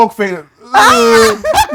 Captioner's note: laughter